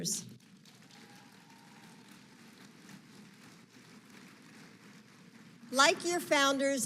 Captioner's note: applause